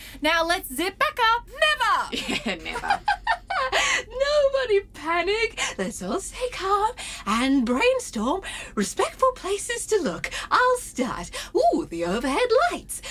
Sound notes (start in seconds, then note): 4.1 Solaris giggles nervously